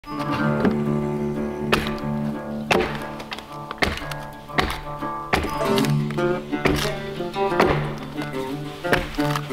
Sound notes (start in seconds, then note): 0.2 country music; 2.6 ax thwacking